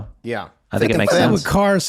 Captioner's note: laughing